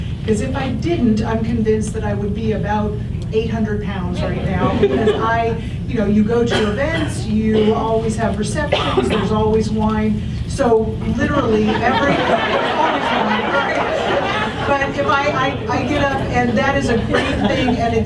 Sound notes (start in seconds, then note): 4.2 audience chuckles; 10.0 audience laughs; 11.5 laugher drowns out voice